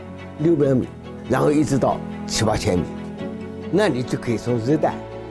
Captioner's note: speaking in foreign language